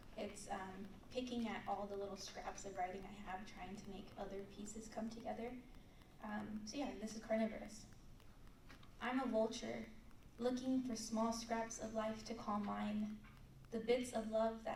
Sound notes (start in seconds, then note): none